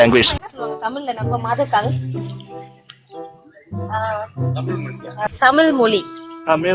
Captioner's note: they are discussing in Tamil